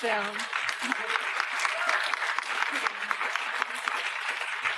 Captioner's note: applause